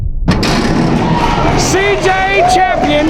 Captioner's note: spectators applauding